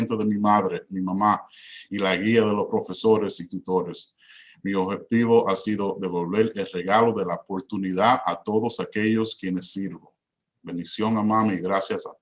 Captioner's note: repeats in Spanish